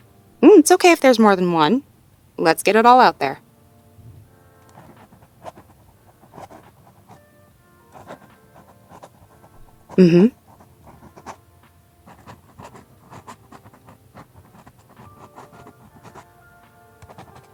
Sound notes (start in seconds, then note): 4.1 writing sounds